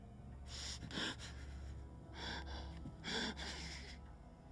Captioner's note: Brian whimpering